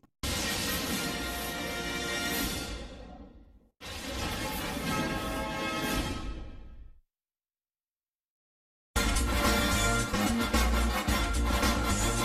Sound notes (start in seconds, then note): 0.2 lightning crashing down as rousing fanfare plays; 3.7 lightning crashing down as low-pitched rousing fanfare plays; 7.2 silence; 9.0 remixed rousing fanfare playing